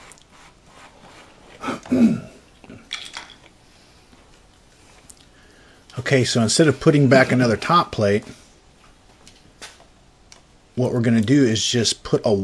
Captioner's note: cough